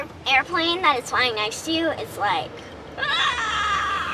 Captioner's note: exclaims